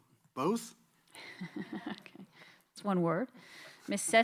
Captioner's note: chuckles